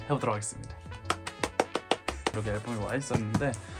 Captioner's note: wild applause